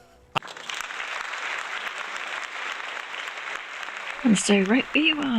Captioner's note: applause; laughs